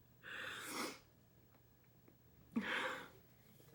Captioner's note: breathes in